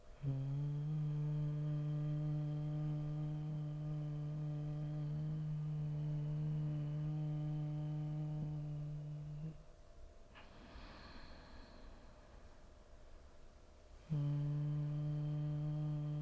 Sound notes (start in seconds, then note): 0.0 humming; 10.3 inhaling; 13.9 humming